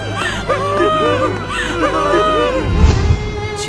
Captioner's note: cries